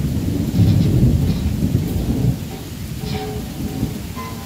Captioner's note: rain Pouring; rumbling Thunder; rain Pouring; rumbling Thunder; instrument Playing; rain Pouring